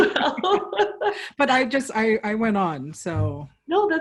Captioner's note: laughter